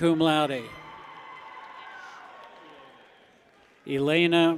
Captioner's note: people cheer